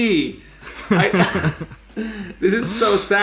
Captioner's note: both laugh